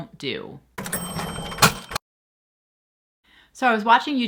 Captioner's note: cash register dinging